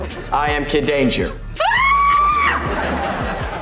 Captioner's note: screaming